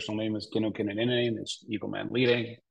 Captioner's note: speaking in a foreign language